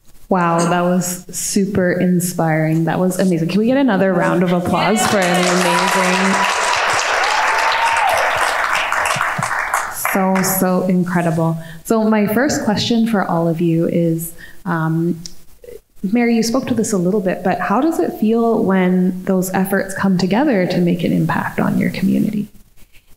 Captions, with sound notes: - Wow, that was super inspiring. That was amazing. Can we get another round of applause for an amazing... (audience clapping) So, so incredible. So my first question for all of you is, Mary, you spoke to this a little bit, but how does it feel when those efforts come together to make an impact on your community?